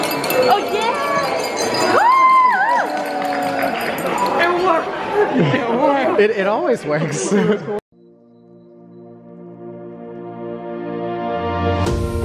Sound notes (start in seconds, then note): 0.7 crowd cheering; 8.1 bright music